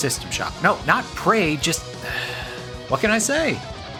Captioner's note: sigh